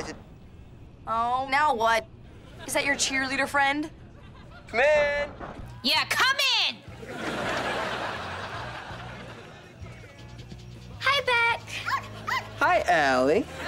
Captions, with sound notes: Oh, now what? Is that your cheerleader frien? - Come in. - Yeah, come in! Hi, Beck. [barking] Hi, Allie.